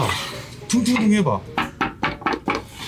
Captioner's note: knocking